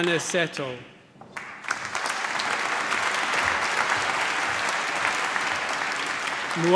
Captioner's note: applause